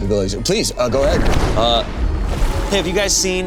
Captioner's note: water sloshing